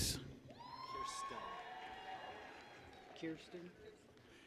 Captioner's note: people cheer